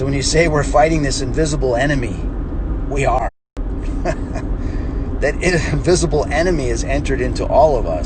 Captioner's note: chuckles